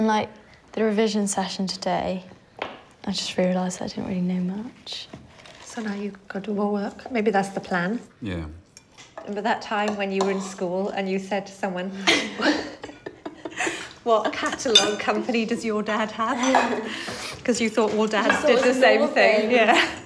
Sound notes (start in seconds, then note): 12.0 laughs; 19.8 laughs